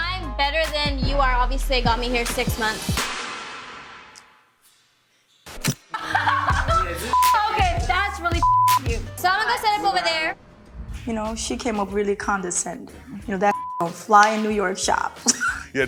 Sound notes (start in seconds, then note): 5.9 laughs; 8.3 beep; 13.5 beep